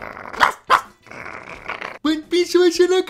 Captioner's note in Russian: гаф-гаф; рычание